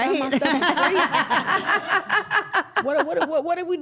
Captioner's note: everyone laughs